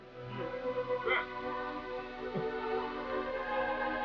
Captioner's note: crying